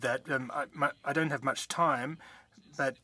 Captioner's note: speaking French